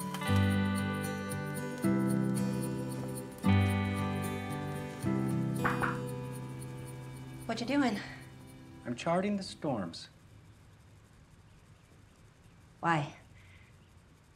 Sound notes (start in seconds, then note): 5.6 knocking